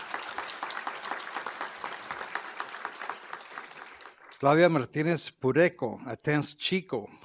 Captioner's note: applause